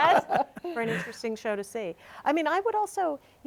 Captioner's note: all laughing